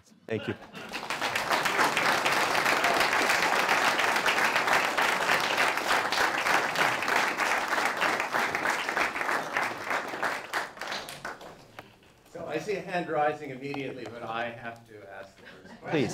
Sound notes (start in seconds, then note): 1.6 applause